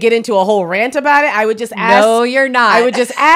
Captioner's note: laughs